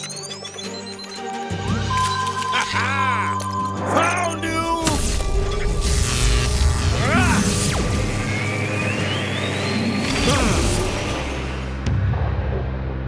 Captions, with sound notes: (beeping) Ha-ha! Found you! Argh! (grunting)